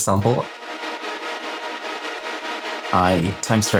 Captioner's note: oscillating tones